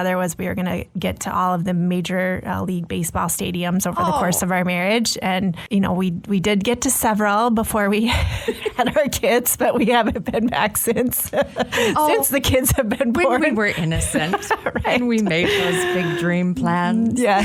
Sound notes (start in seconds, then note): 14.6 laughs